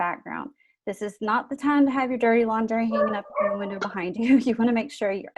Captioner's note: dogs barking